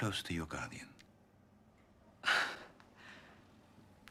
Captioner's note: menghembuskan napas dengan tajam